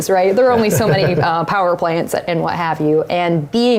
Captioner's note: laugh